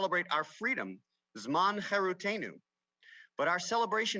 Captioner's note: speaks Hebrew